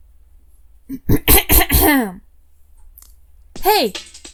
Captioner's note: cough